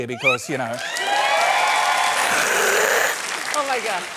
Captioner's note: cheering, applause